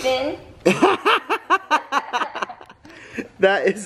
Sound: laughs

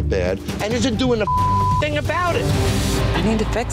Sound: beep

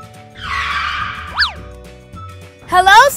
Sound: tires squealing

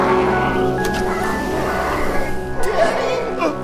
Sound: sliding door opens

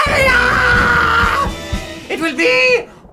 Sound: thunder

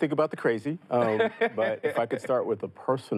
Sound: laughs

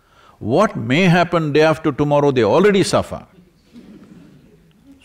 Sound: few laugh

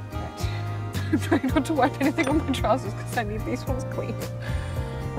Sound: laughs

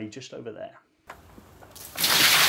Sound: fire crackles; water flushes

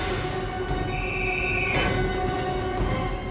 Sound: shrieking

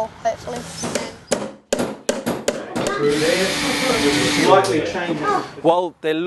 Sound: general workshop noise, chatter

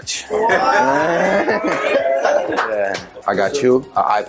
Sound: family cheering

